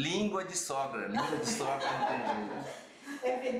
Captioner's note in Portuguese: risos